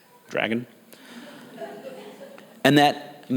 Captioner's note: audience laughs